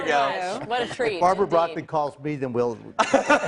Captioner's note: laughter